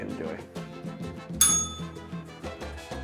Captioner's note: bell rings